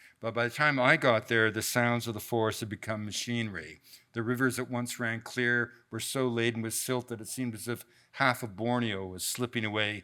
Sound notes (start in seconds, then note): none